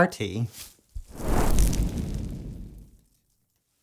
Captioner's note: flames